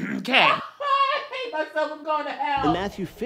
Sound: laughter

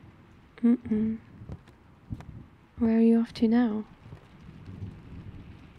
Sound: footsteps

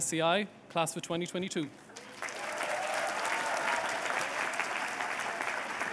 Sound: applause

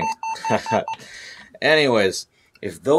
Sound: laughing

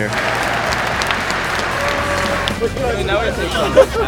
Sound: crowd clapping

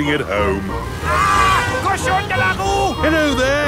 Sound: yells

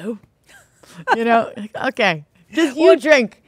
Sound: both laughing

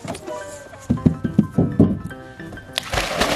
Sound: slide thumps; water splashes

